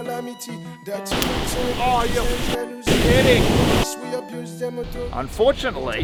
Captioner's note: explosions banging